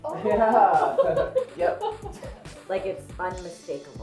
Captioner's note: all chuckles